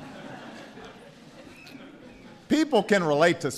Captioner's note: laughter